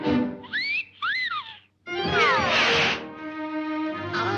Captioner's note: Daffy whistling; gentle music